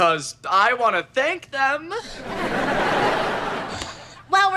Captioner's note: audience laughter